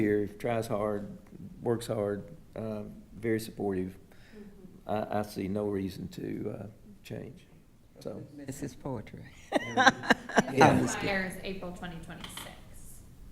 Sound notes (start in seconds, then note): 9.4 laughing